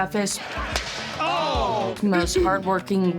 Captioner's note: men exclaiming